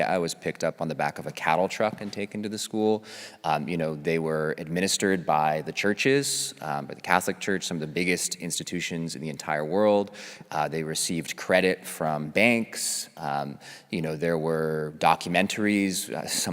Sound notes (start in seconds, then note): none